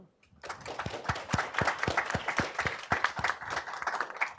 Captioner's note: audience clapping